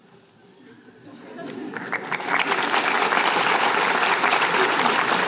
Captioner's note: laughter, applause